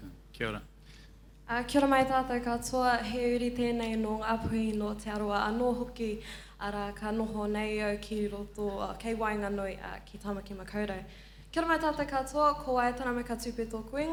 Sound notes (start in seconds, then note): 1.8 speaking in foreign language